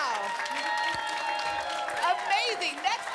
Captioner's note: applause and cheering